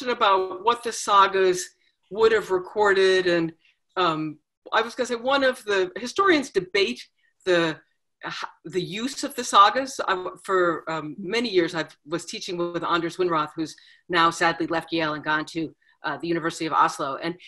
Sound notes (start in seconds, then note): none